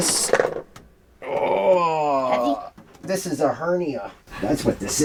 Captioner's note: groans